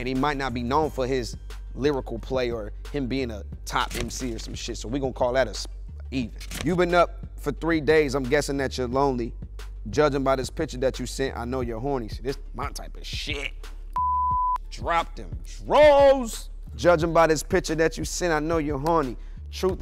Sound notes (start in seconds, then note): 13.9 beep